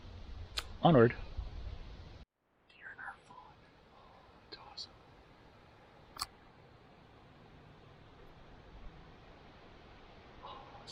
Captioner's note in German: Flüsternd